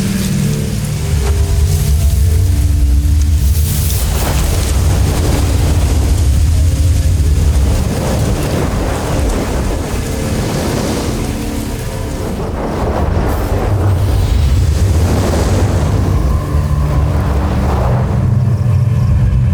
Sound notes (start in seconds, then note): 3.6 elemental whoosh; 18.0 wind howling